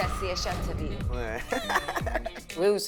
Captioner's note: giggles